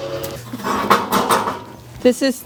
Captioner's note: metal clanking